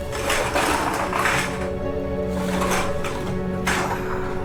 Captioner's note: trash rattles